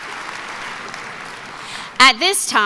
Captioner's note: applause